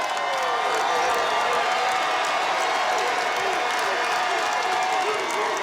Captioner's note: cheering, applause